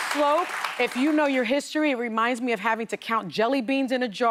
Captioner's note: applause